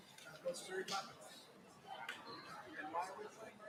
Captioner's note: chatter